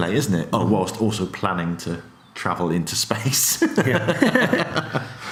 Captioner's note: laughs